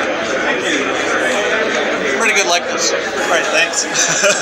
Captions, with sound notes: Thank you Pretty good likeness, alright thanks. [laughs]